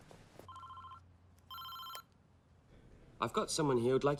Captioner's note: cell phone ringing